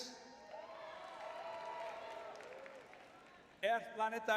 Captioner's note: cheering